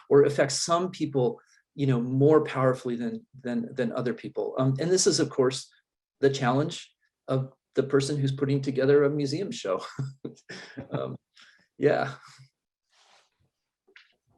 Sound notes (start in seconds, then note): 9.9 chuckles